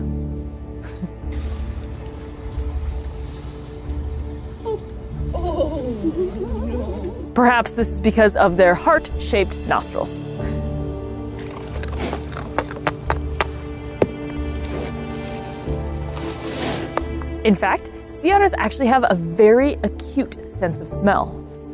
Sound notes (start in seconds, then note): 0.2 background music; 0.8 chuckles; 1.4 background music; 10.3 background music; 11.3 sea otter crunching on ice cubes; 11.4 sea otter banging ice cubes together; 11.5 background music; 14.4 sea otter rolling in ice/ice shifting sound; 14.7 background music